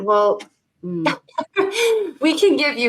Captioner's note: laughing